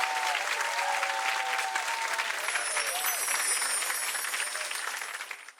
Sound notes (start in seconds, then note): 2.4 chiming